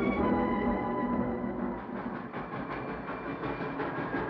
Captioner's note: train chugs